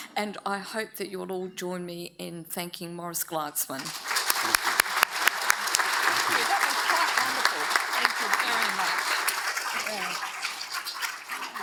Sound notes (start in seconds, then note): 3.8 audience applauds